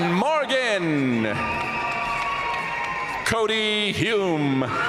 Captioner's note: audience cheering and applauding